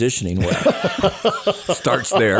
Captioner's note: all chuckling